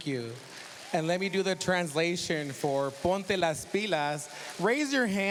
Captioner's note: speaking spanish